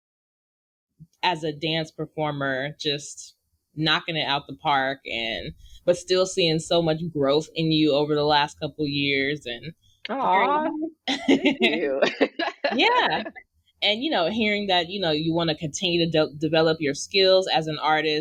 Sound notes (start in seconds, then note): 11.1 laughs